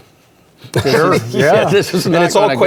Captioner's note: group laughing